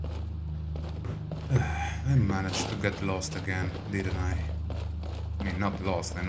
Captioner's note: sigh